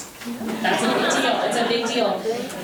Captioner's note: members laughing